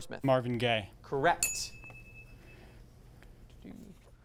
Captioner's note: ding sound